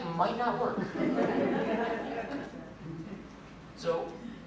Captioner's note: laughter